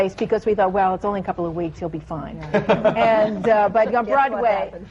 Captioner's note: laughter